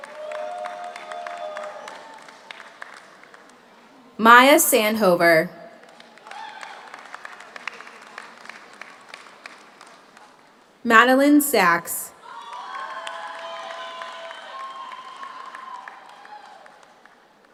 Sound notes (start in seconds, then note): 0.0 audience cheers; 0.0 audience applauds; 5.8 audience applauds; 6.2 audience cheers; 12.2 audience cheers; 12.2 audience applauds